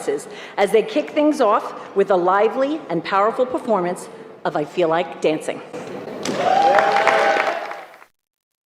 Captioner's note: applause